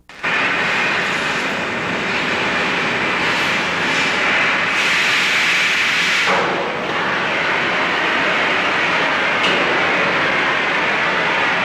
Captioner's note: sound of welding and other construction noises